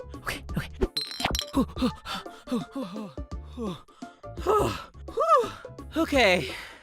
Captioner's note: running, gasping